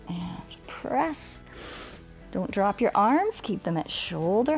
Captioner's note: inhales